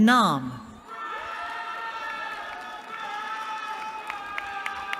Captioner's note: cheering